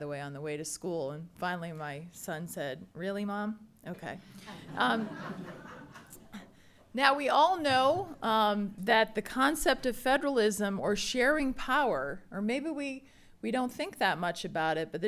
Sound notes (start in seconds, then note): 4.4 attendees laughing